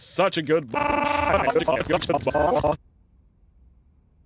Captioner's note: glitched, distorted audio